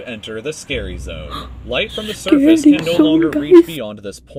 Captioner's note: gasps